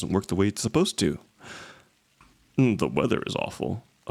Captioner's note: takes a breath